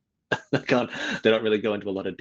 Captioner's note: laughs